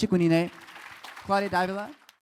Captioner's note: applause